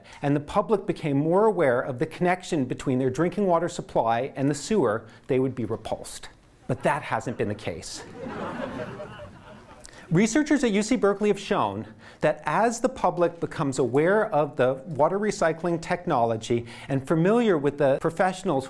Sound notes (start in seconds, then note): 8.0 laughing